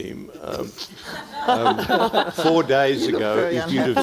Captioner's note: everyone laughing